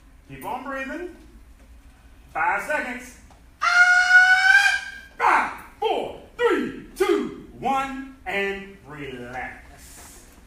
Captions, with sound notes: keep on breathing 5 seconds-- [enthusiastic shouting] 5,4,3,2,1 and relax.